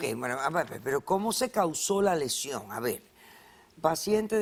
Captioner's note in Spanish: Tartamudeo